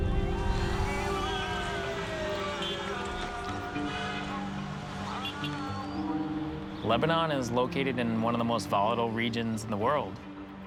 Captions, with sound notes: [siren wailing] [horns honking] - Lebanon is located in one of the most volatile regions in the world.